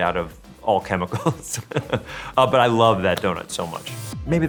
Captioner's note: laughs